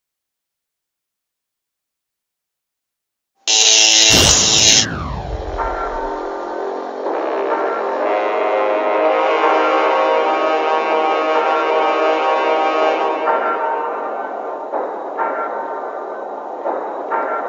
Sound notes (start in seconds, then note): 3.2 bubble Forms; 5.0 Terminator Sounds